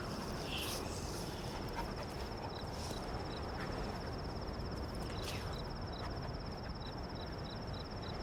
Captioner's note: crickets chirping